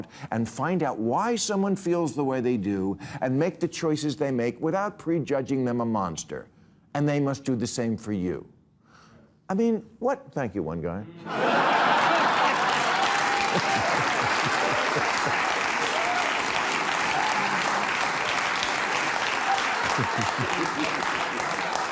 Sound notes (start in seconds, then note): 11.3 audience cheering, applauding; 19.6 chuckles